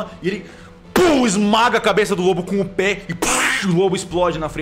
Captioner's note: pow